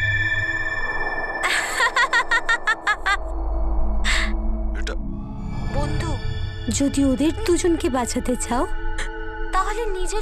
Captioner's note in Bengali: সশব্দ হাসি